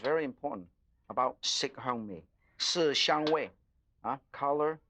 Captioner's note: foreign language